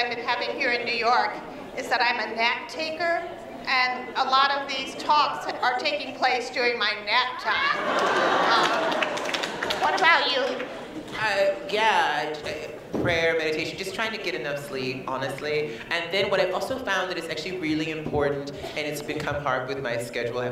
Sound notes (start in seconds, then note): 7.6 laughter